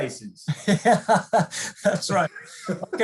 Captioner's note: laughs